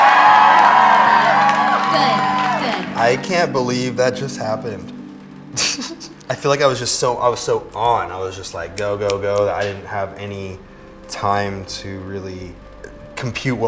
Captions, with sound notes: [cheering] -Good. Good. -I can't believe that just happened. [laughs] I feel like I was just so on. I was just like, "Go, go, go. I didn't have any time to really compute